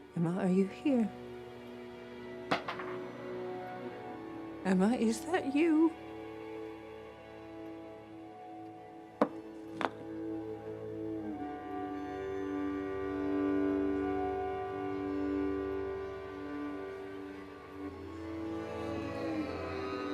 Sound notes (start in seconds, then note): 2.5 marble rattling; 9.4 spool thumping; 16.6 tense music